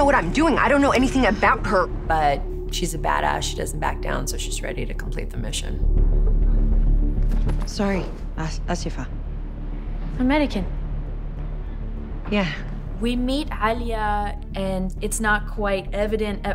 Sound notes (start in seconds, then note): 8.4 speaks in foreign language; 8.4 stammers